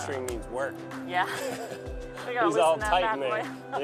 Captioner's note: laughs